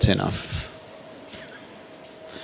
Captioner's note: chuckles